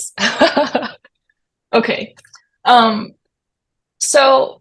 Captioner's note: laughs